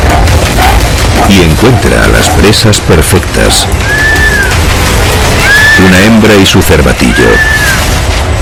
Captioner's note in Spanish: grito